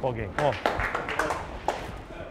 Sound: clapping

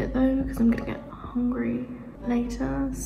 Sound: echoing

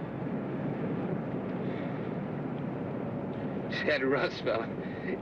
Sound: Roy sighing

